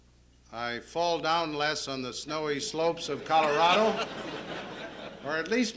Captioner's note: laughter